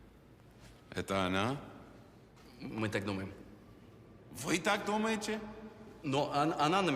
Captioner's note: Russian agents speaking in a foreign language